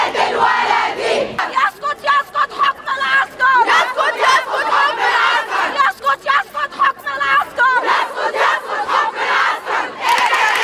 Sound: chants

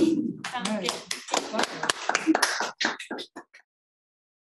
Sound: audience claps

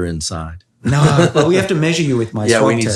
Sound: Andrew chuckles

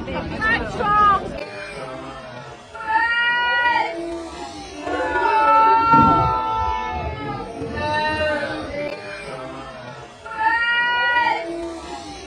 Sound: sounds of a crowd; slowed down sounds of a crowd

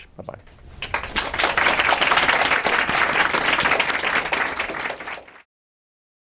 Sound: applause

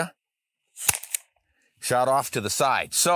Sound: shot fires

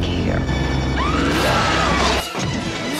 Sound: suicidal lady screams

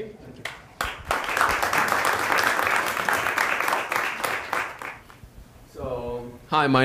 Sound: applause

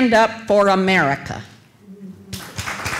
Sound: cheers and applause

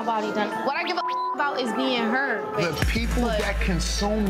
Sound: beep

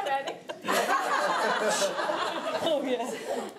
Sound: laughing

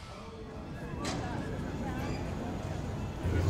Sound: ambient airport noise

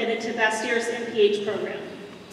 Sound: none

